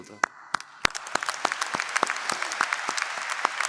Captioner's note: applause